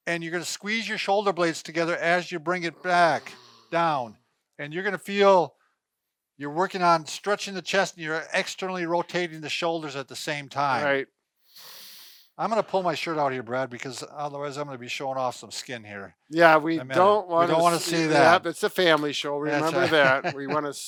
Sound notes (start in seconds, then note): 11.5 exhaling; 11.6 inhaling; 19.4 laughing